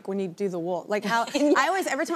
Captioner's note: laughs